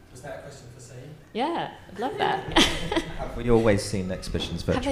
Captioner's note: laughs